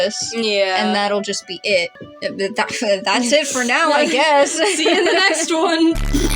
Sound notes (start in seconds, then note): 2.2 stammer; 2.5 chuckle; 4.6 laugh